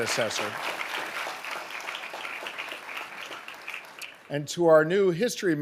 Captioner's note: audience applauding